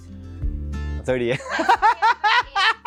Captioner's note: laughs